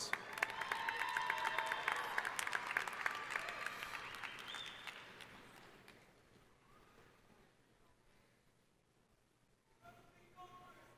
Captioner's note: applause